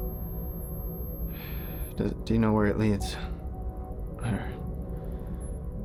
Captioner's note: sighs